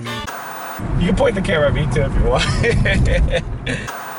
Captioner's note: laughing